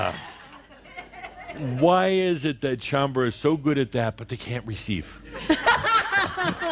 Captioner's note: laughter